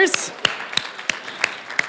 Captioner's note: applause